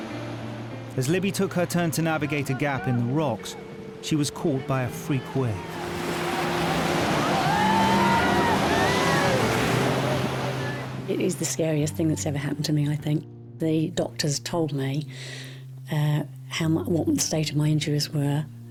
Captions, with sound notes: As Libby took her turn to navigate a gap in the rocks, she was caught by a freak wave. (waves crashing) (group shouting) - It is the scariest thing that's ever happened to me, I think. The doctors told me what the state of my injuries were.